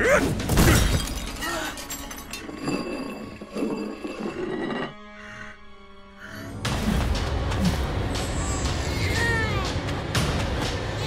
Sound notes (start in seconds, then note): 8.6 crying